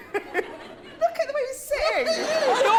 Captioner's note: laughter